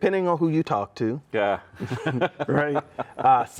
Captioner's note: laughs